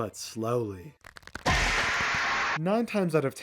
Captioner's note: bones cracking; Wega scream